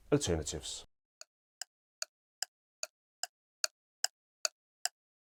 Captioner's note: clock ticking